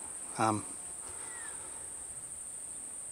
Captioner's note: cicadas